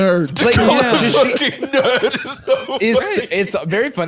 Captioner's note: laughing